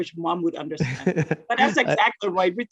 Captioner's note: laughing